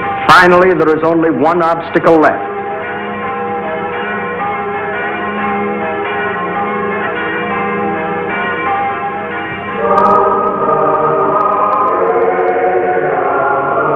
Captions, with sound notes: Finally there was only one obstacle left. (bells chiming) (choir singing in Latin)